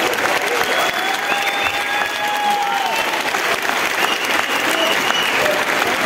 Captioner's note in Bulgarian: аплодисменти